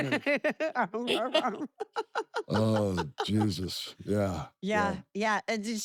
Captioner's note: laugh